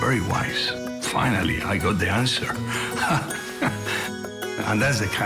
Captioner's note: laughs